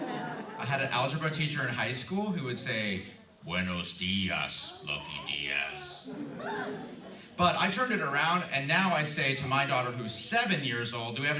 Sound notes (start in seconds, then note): 2.9 in a deep voice